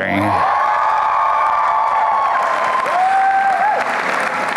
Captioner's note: applause and cheering